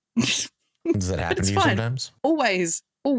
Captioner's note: laughs